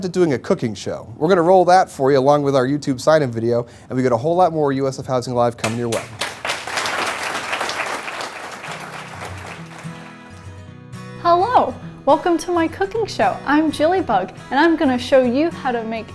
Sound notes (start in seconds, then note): 8.9 applause